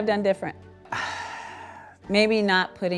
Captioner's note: sighs